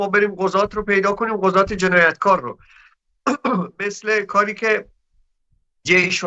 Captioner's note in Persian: گلویش را صاف می‌کند